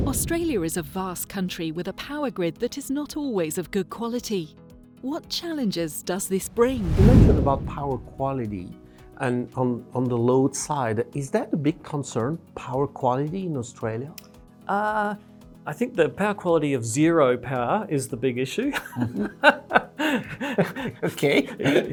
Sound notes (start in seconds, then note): 18.8 laugh